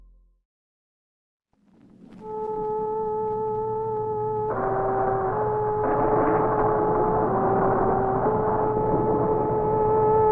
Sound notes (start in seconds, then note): 2.2 subdued music; 5.8 thunder crashing